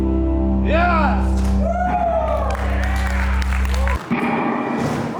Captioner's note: sparse woos in the audience